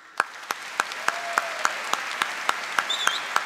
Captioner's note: applause